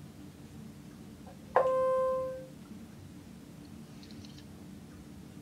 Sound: machine beeping

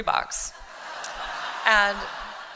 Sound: laughter

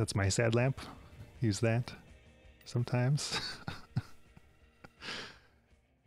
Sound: chuckles

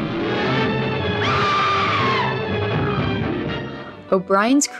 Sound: Ann Darrow screams

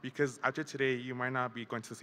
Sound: none

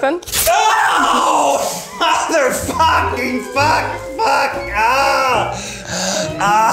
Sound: beep

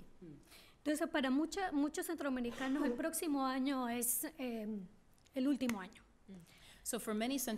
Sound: speaking spanish

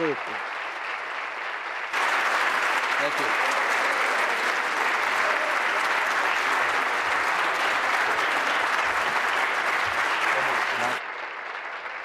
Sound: applause

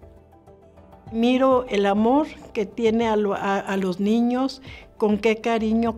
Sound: gentle music; speaking foreign language

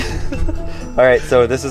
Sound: laughing

